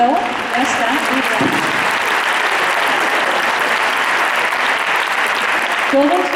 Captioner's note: applause